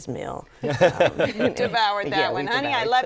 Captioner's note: laughter